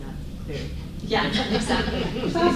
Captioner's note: audience laughing